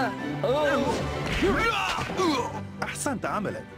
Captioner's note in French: whack!